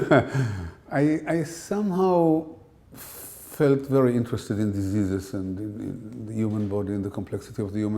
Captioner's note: chuckle